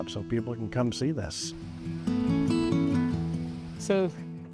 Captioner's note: soft breeze